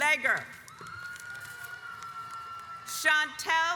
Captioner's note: audience applauds